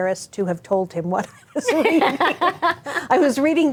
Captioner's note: laughing; chuckles; laughing